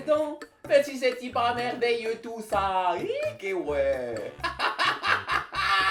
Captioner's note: in a weird old Swiss accent